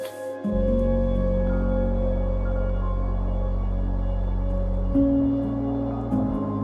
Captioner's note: gentle music; wind whistling